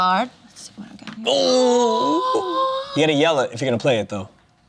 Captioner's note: gasps